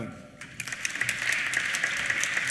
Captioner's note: applause